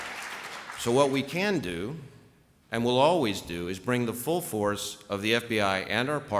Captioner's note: applause